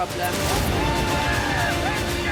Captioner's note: cheering